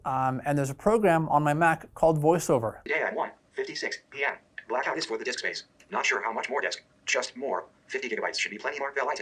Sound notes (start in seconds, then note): 3.0 sounds of computer voiceover app